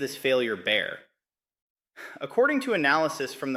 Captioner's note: exhales sharply